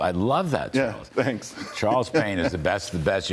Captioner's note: laughter